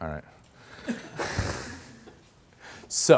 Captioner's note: laughs